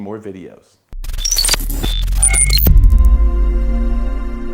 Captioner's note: electronic sounds